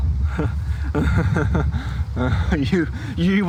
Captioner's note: laughs